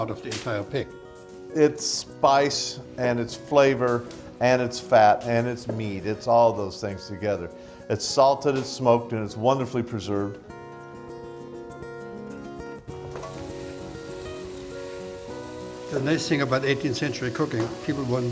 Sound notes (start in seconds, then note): 11.0 upbeat guitar music; 13.1 bacon frying